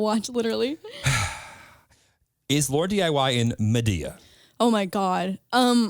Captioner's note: gasps; laughs